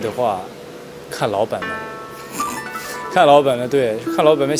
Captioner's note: laughs